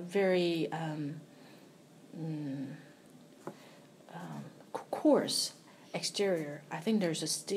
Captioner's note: sighs